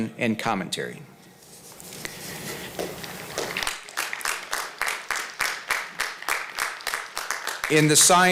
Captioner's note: applause